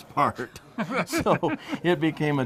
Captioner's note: laughing